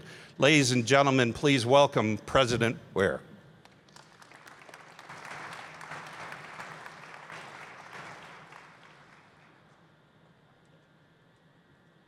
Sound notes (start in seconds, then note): 3.6 applause